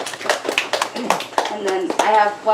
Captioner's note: audience applause